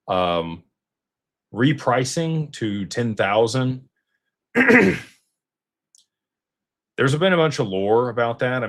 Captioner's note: clears throat